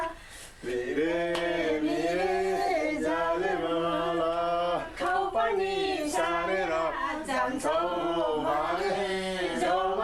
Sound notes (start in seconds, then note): none